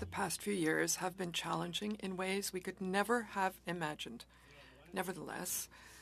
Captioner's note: speaking French